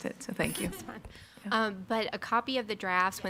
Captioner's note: attendees laughing